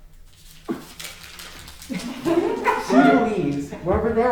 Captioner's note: paper rustling